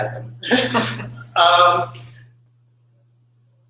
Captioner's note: laughter